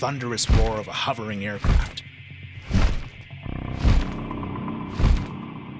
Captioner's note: wings flapping